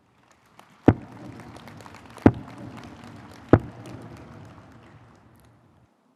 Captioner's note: audience applauding; stage thudding